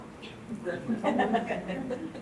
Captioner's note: audience laughing